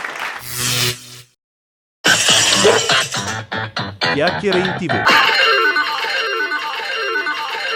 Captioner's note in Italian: Applauso